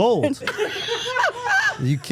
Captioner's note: everyone laughing